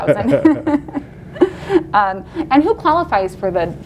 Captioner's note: laughs loudly